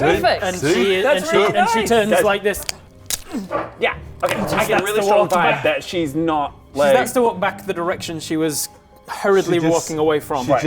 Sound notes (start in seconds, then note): 1.9 crack